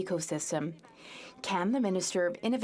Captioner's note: chatter